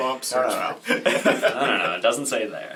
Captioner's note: all laugh